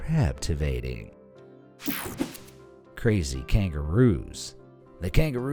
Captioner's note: air whooshing